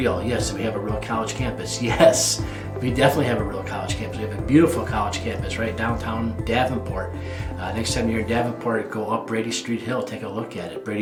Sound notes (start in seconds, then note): 1.9 laughs